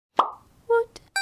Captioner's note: pop